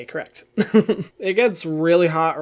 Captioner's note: laughs